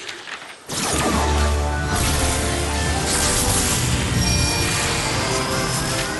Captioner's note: whoosh